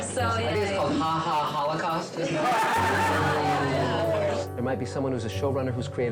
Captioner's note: group laughing